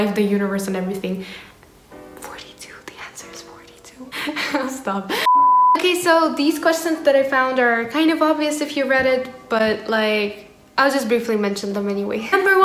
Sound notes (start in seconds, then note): 1.5 whispers